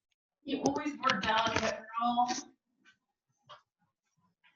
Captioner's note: woman murmuring